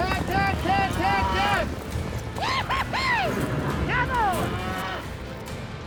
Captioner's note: yelling